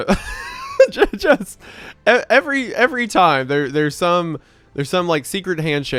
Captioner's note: laughs; stammers